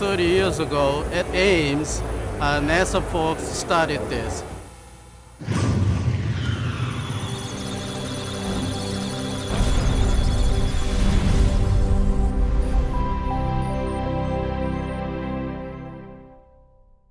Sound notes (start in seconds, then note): 6.4 electronic Sounds of Data; 7.0 musical Tones